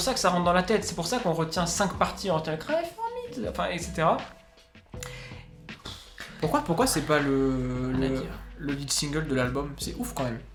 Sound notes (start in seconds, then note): 5.0 sighs